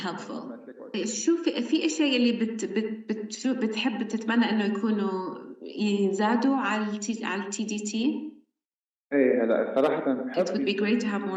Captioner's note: speaking arabic